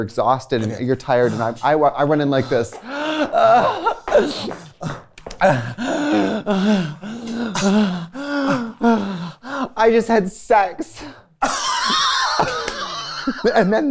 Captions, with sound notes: and you're exhausted, and you're tired, and I went in like this. [gasping and panting] I just had sex. [laughter]